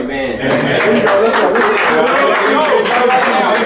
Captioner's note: cheering and clapping